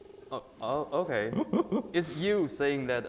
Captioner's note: laughing